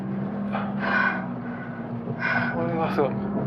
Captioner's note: exhales